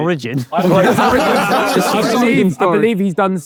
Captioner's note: group laughing